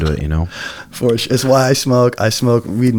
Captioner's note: chuckles